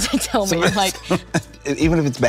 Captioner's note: Colman chuckles